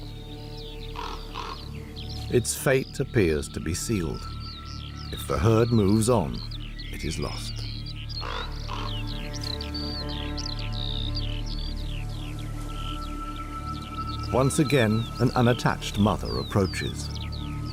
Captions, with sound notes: [caws] Its fate appears to be sealed. If the herd moves on, it is lost. [caws] Once again, an unattached mother approaches.